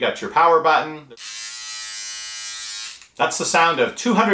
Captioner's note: buzzing